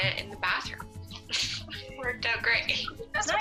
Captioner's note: laughs